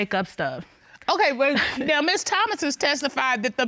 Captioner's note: chuckles